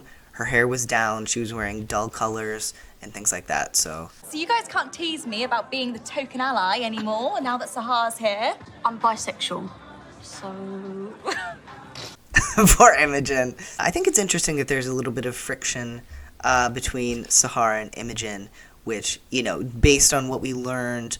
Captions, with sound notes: her hair was down, she was wearing dull colors and things like that. So. [laughs] Poor Imogen. I think it's interesting that there's a little bit of friction between Sahar and Imogen, which, you know, based on what we learned